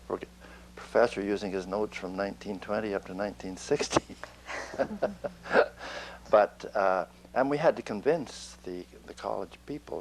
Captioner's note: laughter